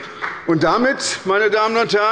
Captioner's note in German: Beifall bei der SPD